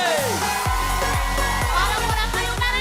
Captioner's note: audience cheering